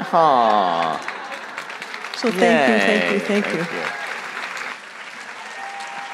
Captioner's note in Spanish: Aplausos